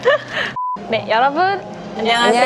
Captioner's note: beep